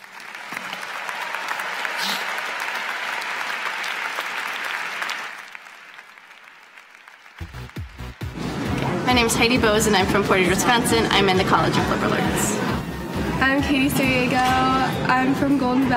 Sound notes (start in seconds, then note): 9.0 applause